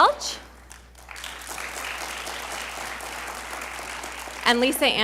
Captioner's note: audience applauding